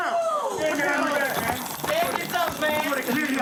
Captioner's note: yelling